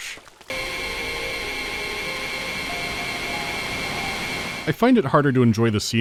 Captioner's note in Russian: громкое, резкое жужжание зиплайна